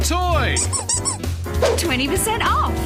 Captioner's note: squeaking